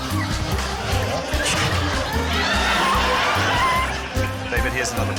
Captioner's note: mumbles, grunts; laughter